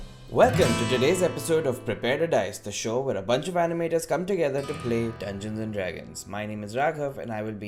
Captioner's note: none